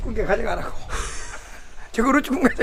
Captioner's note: laughs